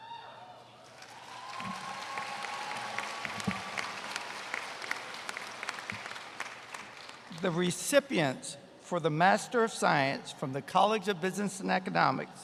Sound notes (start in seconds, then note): 5.6 applause